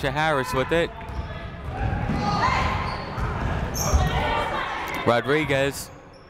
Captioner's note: people shouting in the crowd